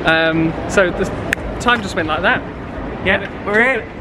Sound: clicks

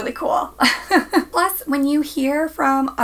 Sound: laughs

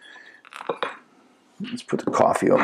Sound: dishes rattling

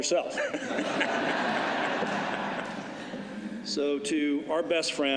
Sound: laughter

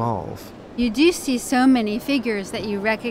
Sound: voiceover

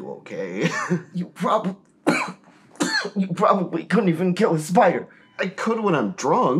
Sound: coughs

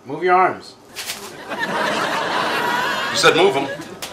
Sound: audience laughs

